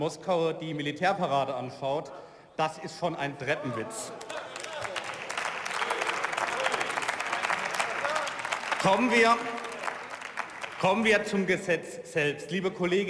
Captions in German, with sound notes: in Moskau die Militärparade anschaut, das ist schon ein Treppenwitz. (Beifall und Zwischenrufe) Kommen wir-, kommen wir zum Gesetz selbst.